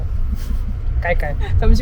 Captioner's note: ha ha